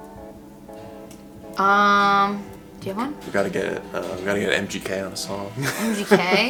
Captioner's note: laughs